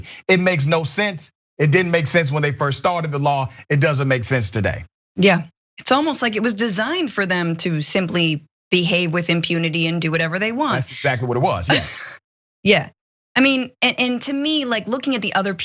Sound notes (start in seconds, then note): 10.7 laugh